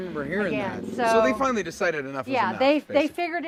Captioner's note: none